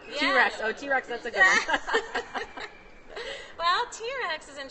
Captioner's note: laughs